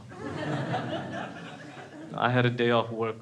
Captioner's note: crowd laughs